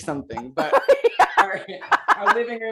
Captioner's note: laughs